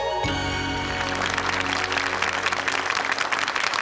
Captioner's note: clapping